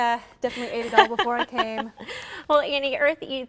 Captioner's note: laughter